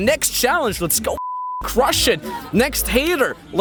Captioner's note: beep